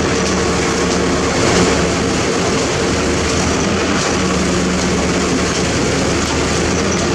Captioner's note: truck Revs